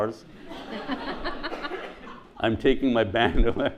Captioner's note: audience laughs